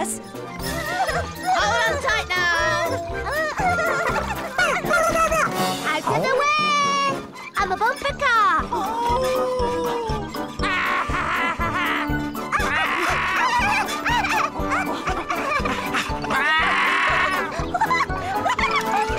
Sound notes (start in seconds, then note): 5.2 giggles; 12.4 howls; 13.4 giggles; 14.6 Puss yells